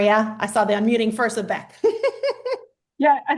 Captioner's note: laughs